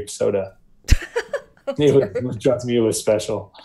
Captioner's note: laughing